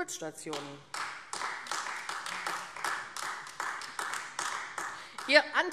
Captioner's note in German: Beifall AfD